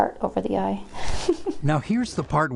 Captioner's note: chuckles